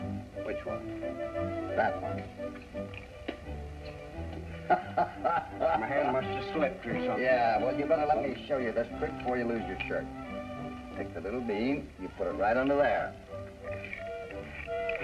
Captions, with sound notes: There, which one? That one. [laughter] My hand must have slipped or something. Yeah, well you better let me show you this trick before you lose your shirt. Take the little bean. You put it right under there.